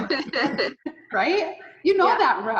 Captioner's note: all laughing